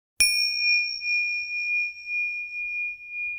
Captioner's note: bell dinging